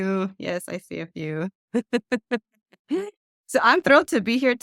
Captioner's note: laughs